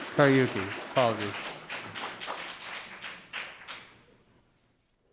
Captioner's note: audience applauding; speaking faintly